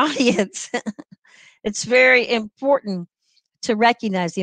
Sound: laughter

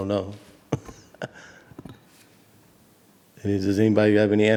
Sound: chuckles

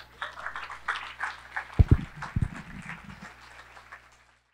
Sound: audience members whooping; audience clapping

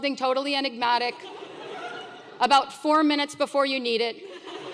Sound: laugh; laugh

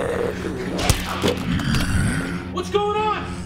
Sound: blow thuds

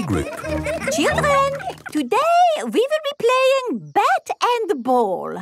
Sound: children laughing

